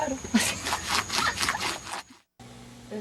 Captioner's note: laughter